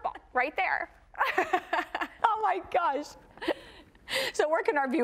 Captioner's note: laughs